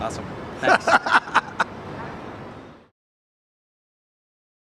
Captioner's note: laughs